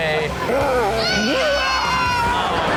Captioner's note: audience laughs; toddler screams